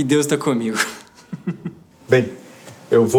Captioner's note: laughter